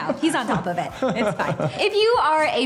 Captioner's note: laughs